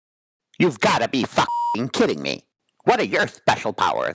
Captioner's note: beeping